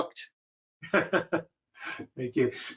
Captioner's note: laughing